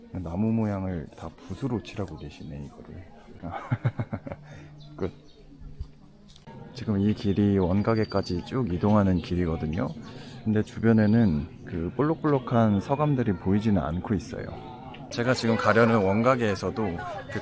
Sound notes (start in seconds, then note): 3.6 awkward laugh